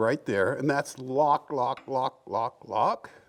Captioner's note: none